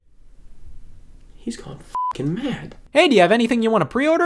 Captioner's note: beep